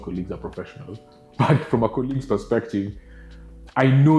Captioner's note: laughing